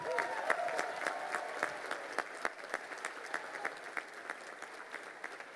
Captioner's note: crowd cheering and applauding